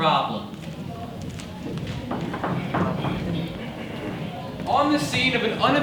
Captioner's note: background chatter